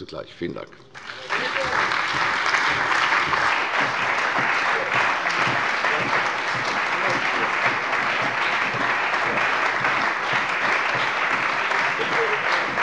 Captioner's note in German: Anhaltender lebhafter Beifall bei der CDU und dem BÜNDNIS 90/DIE GRÜNEN